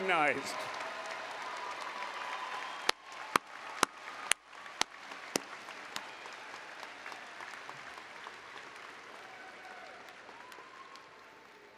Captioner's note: applause and Cheering